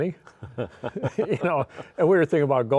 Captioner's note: both laughing